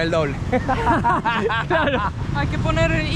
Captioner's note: laughs